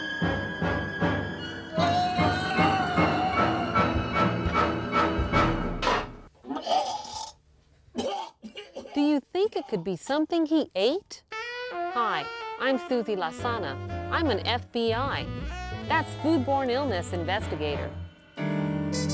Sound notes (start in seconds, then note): 2.1 yelling; 6.4 vomiting sounds; 18.8 jazz music